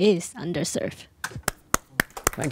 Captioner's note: applause